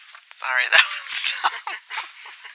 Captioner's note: laughs